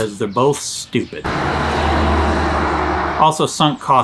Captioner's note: car zooming